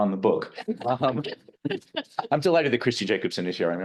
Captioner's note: both laughing